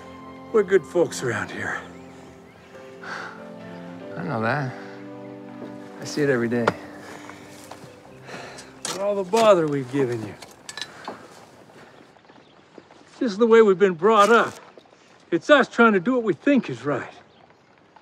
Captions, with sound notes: we're good folks around here. [panting] I know that. I see it every day. But all the bother we've given you, it's just the way we've been brought up. It's us trying to do what we think is right.